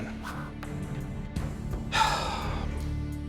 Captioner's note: sighs deeply